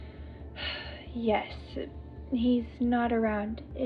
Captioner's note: sighs